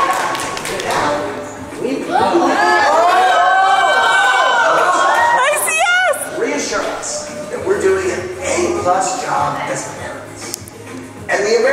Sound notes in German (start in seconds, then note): 2.0 Leute jubeln